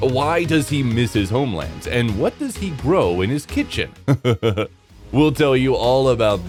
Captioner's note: stoned laughter